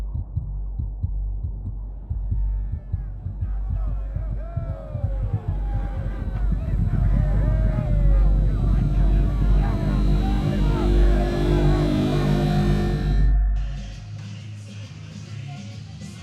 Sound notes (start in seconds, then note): 4.4 cheering